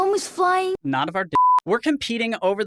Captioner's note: beep